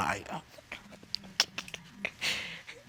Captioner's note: laughing and crying